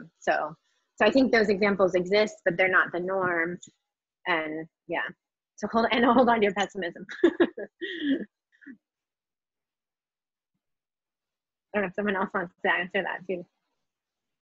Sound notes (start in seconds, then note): 7.2 laughs